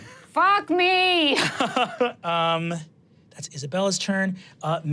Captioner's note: laughs